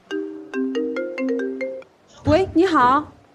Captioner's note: unknown number calls